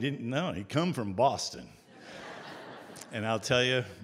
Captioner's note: audience Laughter